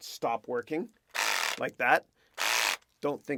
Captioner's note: power drill whirring